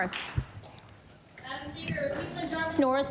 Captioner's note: applause